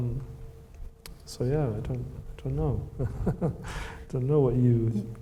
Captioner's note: laughs